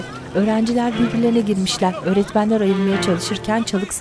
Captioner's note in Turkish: Kalabalık konuşma sesleri